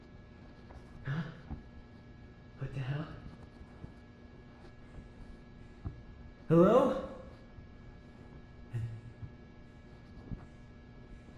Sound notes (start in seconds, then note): none